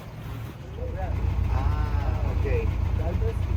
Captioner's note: in Spanish